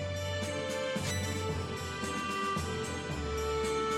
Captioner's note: metallic sound